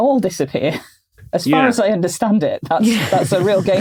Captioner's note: group chuckling